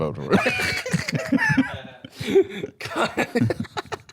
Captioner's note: all laughing; laughing